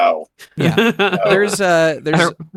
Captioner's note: laughs